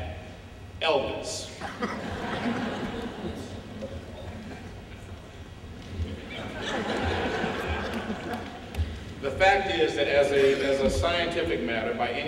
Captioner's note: laughter